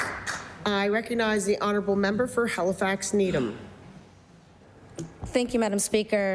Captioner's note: applause